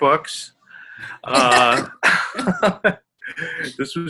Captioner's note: laughing